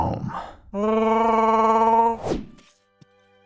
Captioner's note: chewy growls